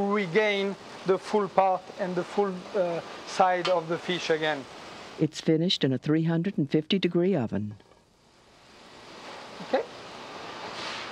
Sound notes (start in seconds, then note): 5.2 voiceover